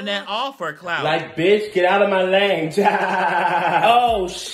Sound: laughs

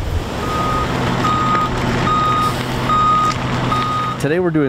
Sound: backup alarm blaring

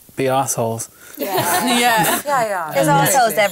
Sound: laughter

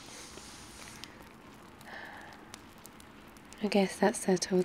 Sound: sighs

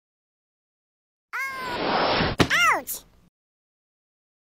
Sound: whoosh!

